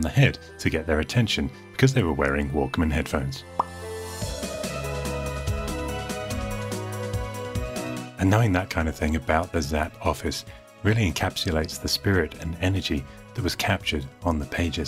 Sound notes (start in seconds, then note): 3.5 pop